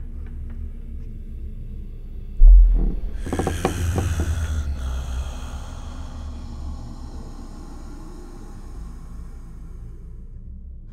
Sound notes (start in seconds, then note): 2.8 demonic Hiss